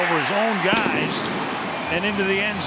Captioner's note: firecrackers bursting